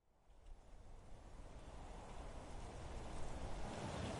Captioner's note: wind blowing gently